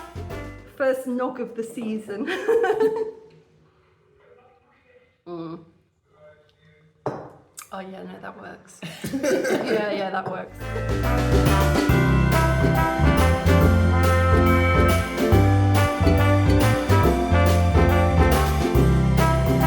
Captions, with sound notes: First nog of the season. [laughing] Mmm. Oh yeah, no, that works. [everyone laughing] Yeah, yeah, that works. [cheery Christmas music]